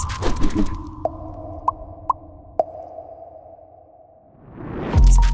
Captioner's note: bubble popping